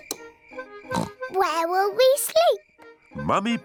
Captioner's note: oinks